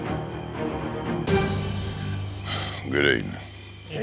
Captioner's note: sigh